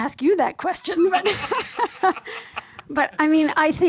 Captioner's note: laughs